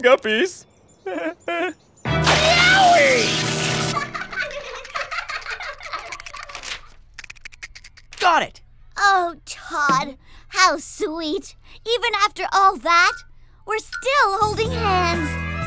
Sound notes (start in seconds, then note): 1.0 sheepish chuckle; 3.9 giggling